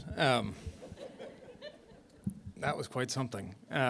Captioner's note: laughter